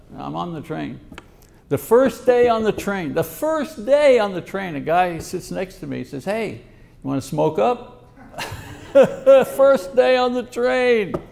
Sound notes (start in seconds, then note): 8.1 laughs; 8.2 audience laughs